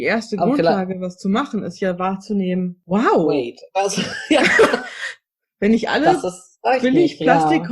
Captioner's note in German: beide lachen